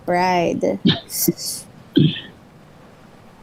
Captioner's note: laughs